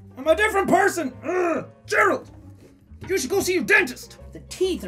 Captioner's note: grunting